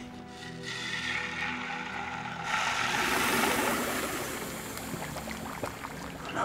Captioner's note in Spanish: mezcla siseando y gorgoteando